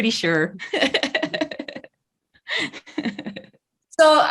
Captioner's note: laughs